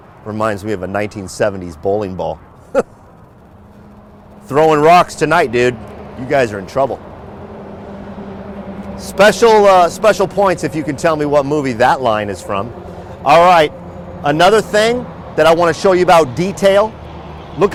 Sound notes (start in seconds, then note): 2.6 chuckles